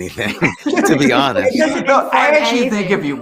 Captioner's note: everyone laughing